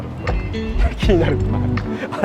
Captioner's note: laughs